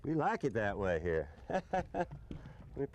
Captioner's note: laughter